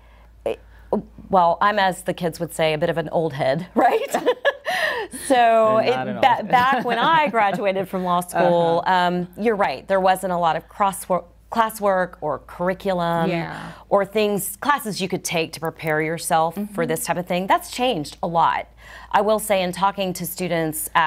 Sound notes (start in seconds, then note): 4.1 both chuckle; 6.4 chuckles